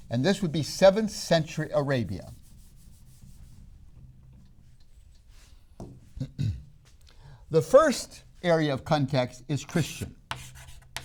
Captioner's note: clears throat; chalk sounds